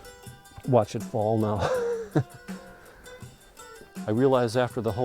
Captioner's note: chuckling